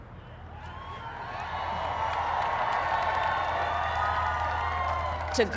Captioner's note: applaud